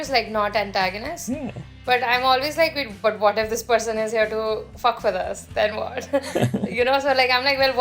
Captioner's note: laughter